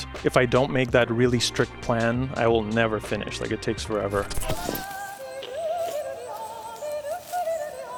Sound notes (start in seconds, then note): 4.3 graphic buzzes; 4.6 singer yodeling